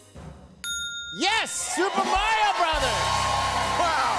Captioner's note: ding!